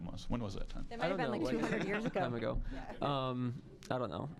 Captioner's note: all chuckling